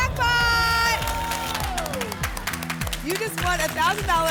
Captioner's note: applause and cheering